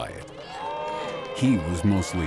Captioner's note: crowd screams